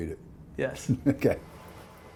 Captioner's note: laughing